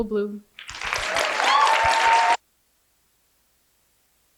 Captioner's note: applause